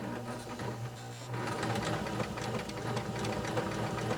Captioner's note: machine sewing